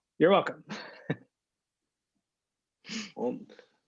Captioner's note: laughter